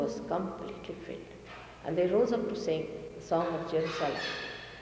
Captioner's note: mother quotes in another language